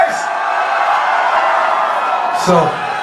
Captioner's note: crowd Cheering